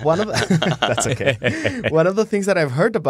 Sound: laughing

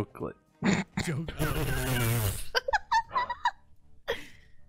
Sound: Tina and Ryan laughing

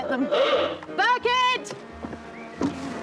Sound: sounds horn

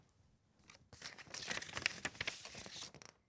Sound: shuffling paper

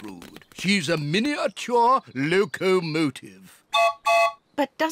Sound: toots whistle

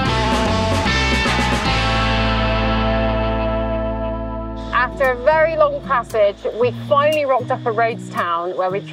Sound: none

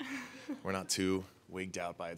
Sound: laughs

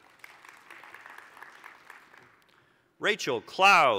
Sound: applause

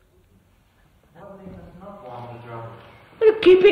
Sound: laughs

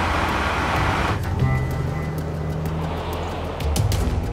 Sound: car sounds; background music

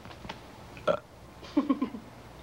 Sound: Jack burps; Jack and Molly laughing

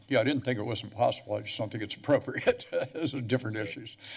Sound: chuckles

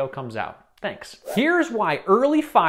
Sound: whooshing

